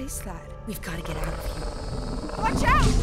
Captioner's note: creature growls